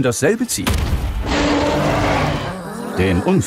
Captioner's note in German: Gebrüll